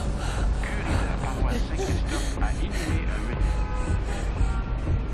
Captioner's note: car radio pIaying; panting